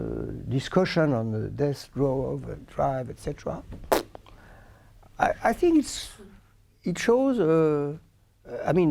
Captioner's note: blows raspberry